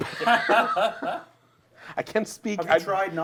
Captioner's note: laughter